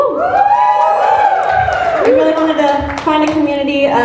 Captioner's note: applause